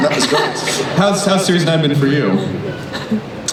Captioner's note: voiceover